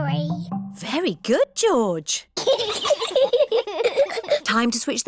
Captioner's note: both giggle